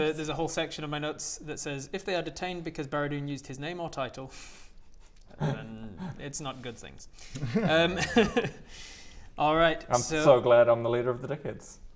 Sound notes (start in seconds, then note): 7.3 devious giggles